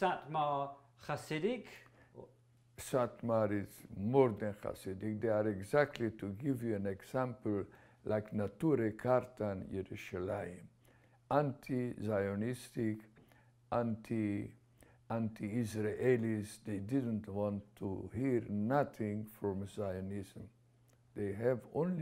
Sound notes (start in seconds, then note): 11.2 hebrew